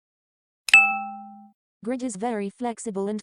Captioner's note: chime